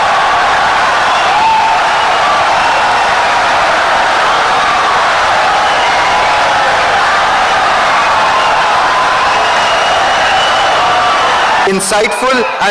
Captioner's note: wild applause and cheering for 17 seconds